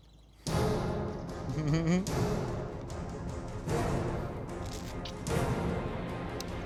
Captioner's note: dramatic music; laughs